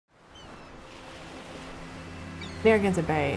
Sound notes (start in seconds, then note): 0.2 waves crashing; 0.2 birds chirping; 2.3 slow soft music